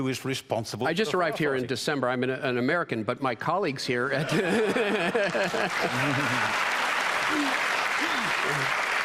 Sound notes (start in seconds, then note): 4.1 laughter; 4.2 laughs; 6.4 cheering and applause